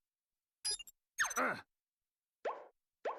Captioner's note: grunting